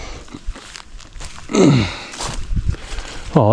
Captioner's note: grunts